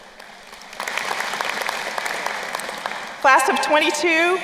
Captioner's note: crowd applauding